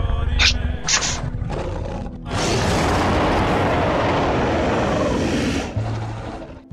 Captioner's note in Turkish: kükreme